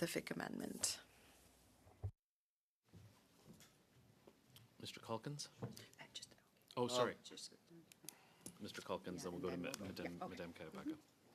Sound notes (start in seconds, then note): 5.6 speaking French